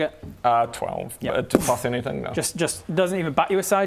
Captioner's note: boof